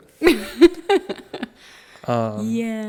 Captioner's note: laughing